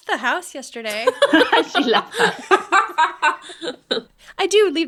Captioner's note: laughing